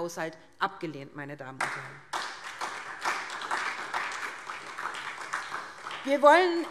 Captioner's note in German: Beifall SPD